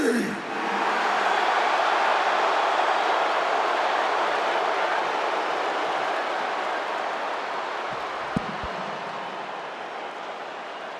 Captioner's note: applause